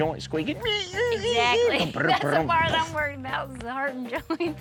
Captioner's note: makes squeaking sounds